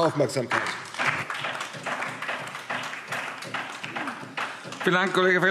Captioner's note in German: Beifall DIE LINKE